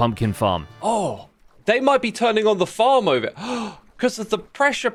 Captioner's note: gasps